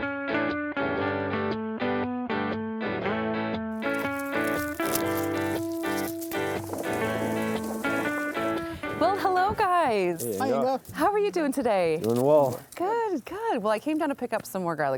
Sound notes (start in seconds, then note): 3.8 garlic skin crinkling